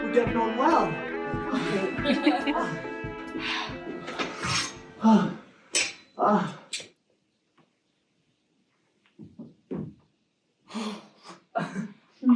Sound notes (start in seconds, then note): 1.5 audience laughter; 4.3 music fades